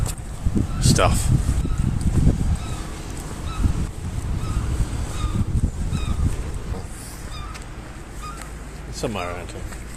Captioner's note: birds chirping